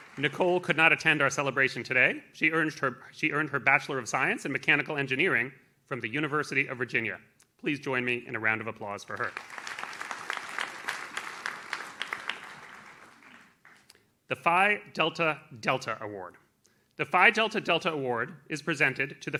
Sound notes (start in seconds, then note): 9.0 audience claps